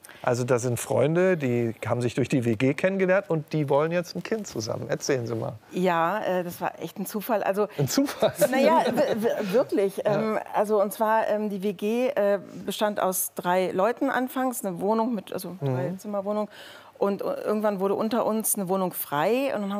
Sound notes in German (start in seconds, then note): 8.0 lacht